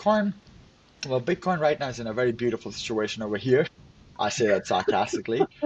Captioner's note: laughs